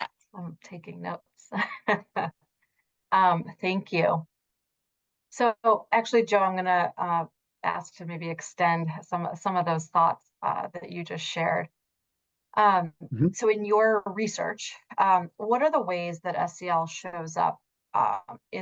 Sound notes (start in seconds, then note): 1.6 laughs